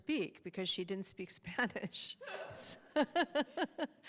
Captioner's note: laughing